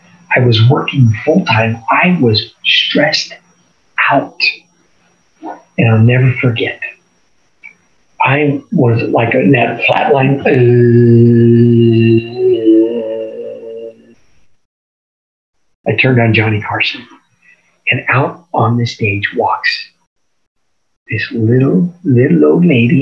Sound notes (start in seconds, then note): 11.9 groans